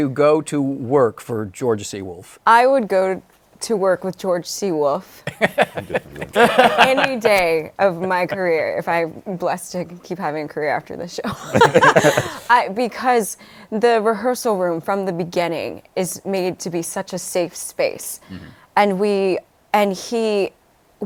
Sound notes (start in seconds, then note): 5.2 laughter; 11.3 laughter